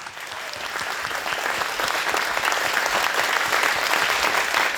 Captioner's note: audience clapping